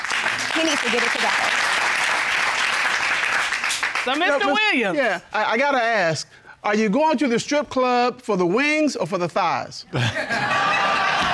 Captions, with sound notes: he needs to get it together. [applause] -So, Mr. Williams-- -Yeah. I gotta ask. Are you going to the strip club for the wings or for the thighs? [laughter]